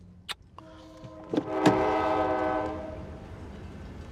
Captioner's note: train whistling